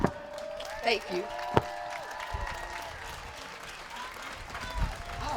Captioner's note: applause